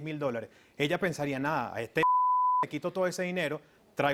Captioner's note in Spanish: Bip